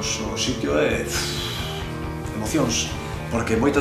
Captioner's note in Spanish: suspiro